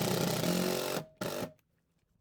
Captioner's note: drill whirring